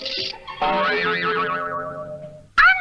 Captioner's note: boing!